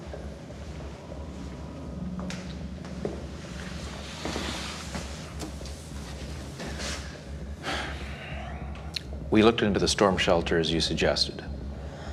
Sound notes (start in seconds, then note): 7.5 sighs